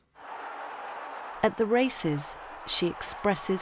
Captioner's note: crowds cheering